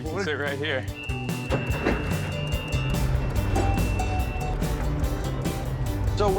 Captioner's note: boat's motor running